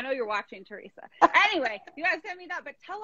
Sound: laughing

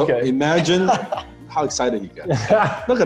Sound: laughing

